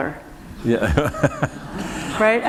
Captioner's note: laughter